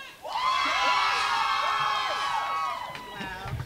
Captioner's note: cheering